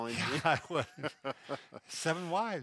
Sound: both laughing

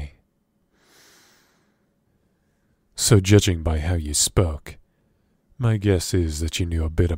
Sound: deep breath, taking a deep breath

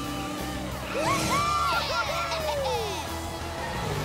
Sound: cheering

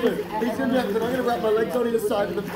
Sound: none

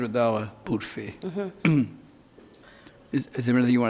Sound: clears throat

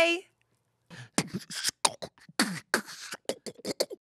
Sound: beatboxing

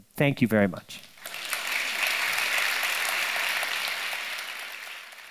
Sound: audience applauding

